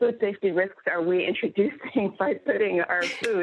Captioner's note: laughs